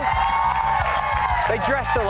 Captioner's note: applause